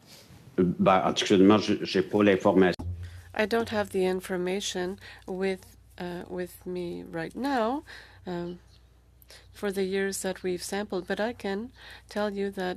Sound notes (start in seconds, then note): 5.6 speaking French